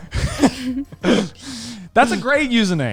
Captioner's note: all laughing